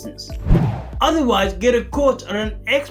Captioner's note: air swooshing